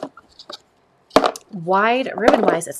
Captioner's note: ribbon thuds